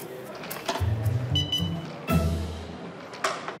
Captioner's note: beeping